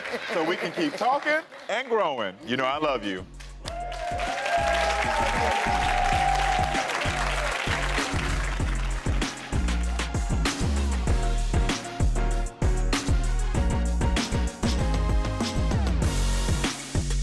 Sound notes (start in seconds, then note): 3.6 audience applauds; 8.2 upbeat music